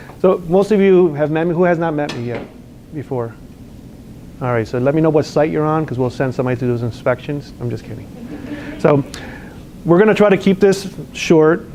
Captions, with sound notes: So most of you have met me. Who has not met me yet before? Alright, so let me know what site you're on, because we'll send somebody to do those inspections. I'm just kidding. (laughter) So, we're gonna try to keep this short